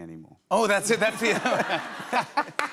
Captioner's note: laughter